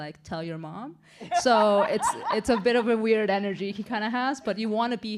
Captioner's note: laughter